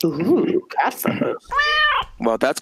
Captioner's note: meow